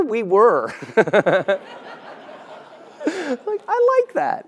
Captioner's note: laugh